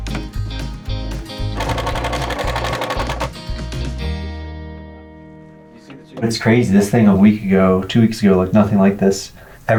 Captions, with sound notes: (drilling) - It's crazy, this thing a week ago, two weeks ago, looked nothing like this.